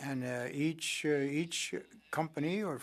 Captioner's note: speaking french